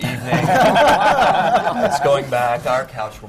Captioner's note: laughter